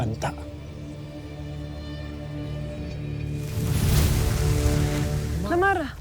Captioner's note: infernal whoosh-crackle; music swells